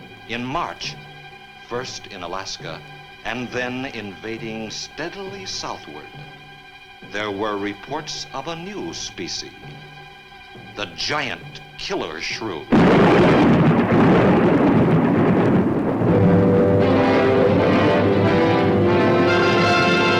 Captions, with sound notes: In March, first in Alaska, and then invading steadily southward, there were reports of a new species. The giant killer shrew. (thunder claps) (ominous orchestral music)